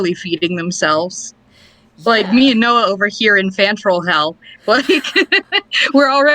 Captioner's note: laughs